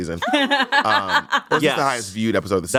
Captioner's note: laughs